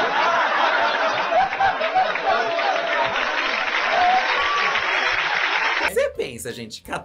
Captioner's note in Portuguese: plateia aplaude